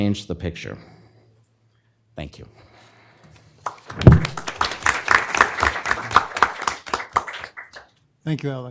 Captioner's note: applause